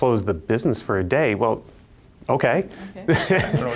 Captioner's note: laughs